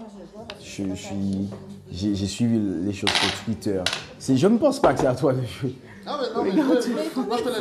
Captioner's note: laughs